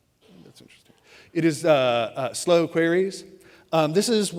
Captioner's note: whispers; speaks louder